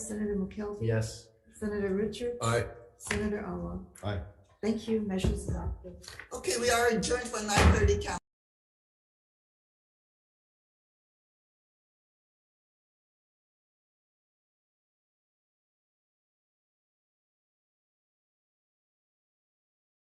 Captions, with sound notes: Senator McKelvey? - Yes. - Senator Richards? - Aye. - Senator Awa? - Aye. - Thank you. Measure's adopted. - Okay, we are adjourned for 9:30- (gavel bangs) count. (silence)